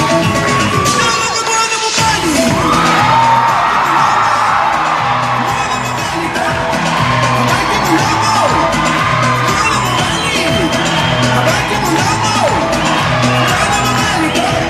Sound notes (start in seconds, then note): 1.8 clapping rhythmically and cheering